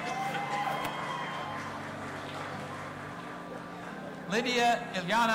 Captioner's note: audience applauding and cheering